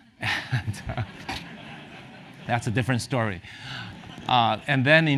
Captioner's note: laugh